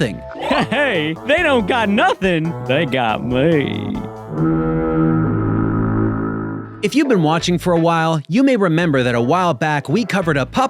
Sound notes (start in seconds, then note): 4.3 fog horn blows